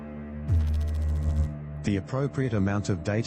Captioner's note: electrical noise